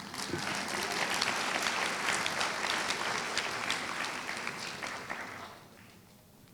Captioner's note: applause